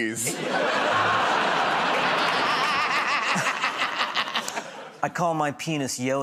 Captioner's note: laughter